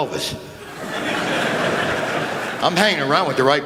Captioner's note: laughter